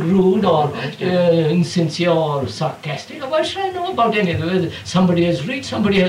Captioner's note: laughs